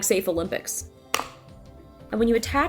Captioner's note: wallet thumps